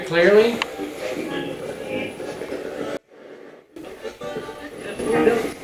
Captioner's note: radio channel changing; radio voice